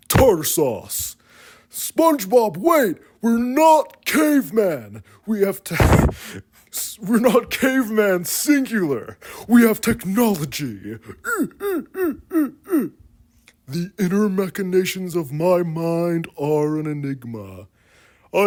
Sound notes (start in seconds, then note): 5.8 wheeze and/or mic peak; 11.6 repeated grunts